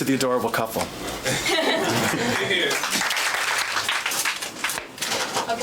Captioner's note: laughing and clapping